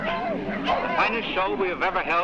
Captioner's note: dogs barking; man over PA